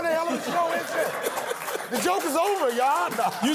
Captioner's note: laughter